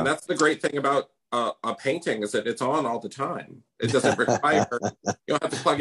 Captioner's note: laughs